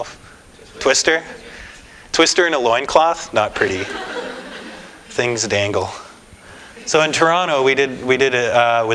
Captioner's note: laughter